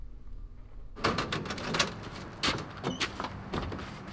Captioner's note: door shuffles